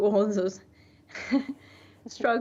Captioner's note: laughs